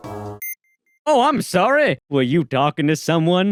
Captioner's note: beeps